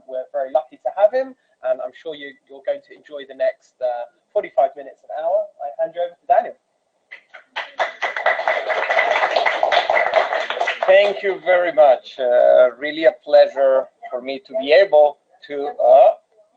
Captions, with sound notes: We are very lucky to have him, and I'm sure you'll grow to enjoy the next 45 minutes or hour. I bring you, Daniel. (applause) Thank you very much. Really a pleasure for me to be able